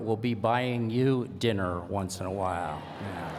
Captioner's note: laughter